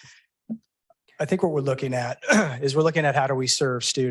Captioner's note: clears throat